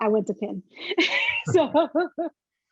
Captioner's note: laughing